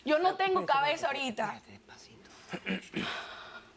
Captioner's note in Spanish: En voz baja